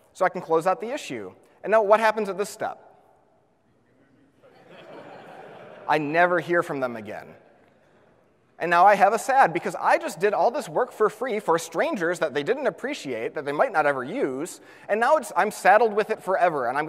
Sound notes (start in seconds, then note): 4.4 audience laughs